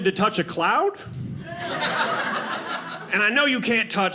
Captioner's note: audience laughing